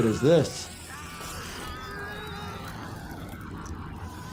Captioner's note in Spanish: persona gritando